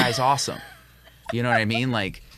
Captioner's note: laughs